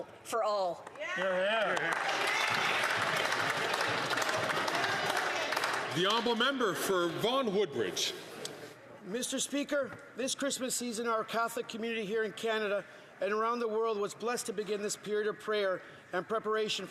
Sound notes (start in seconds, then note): 5.9 some Applause